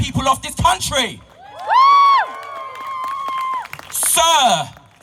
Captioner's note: support and applause from crowd